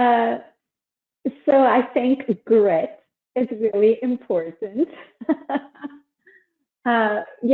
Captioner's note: laughs